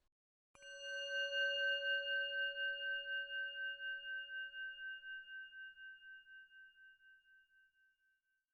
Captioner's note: bell Sound